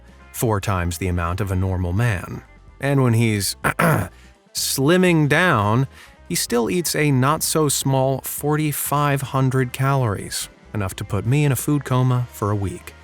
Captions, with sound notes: four times the amount of a normal man. And when he's *ahem* slimming down, he still eats a not-so-small 4,500 calories - enough to put me in a food coma for a week.